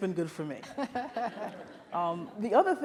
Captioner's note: audience laughs